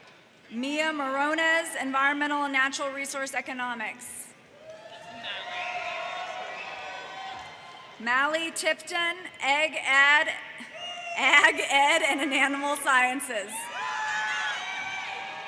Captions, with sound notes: Mia Morones, Environmental and Natural Resource Economics, Malei Tipton, Egg Add, (laughs) Ag Ed, and Animal Sciences.